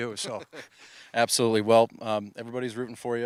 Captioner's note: laughs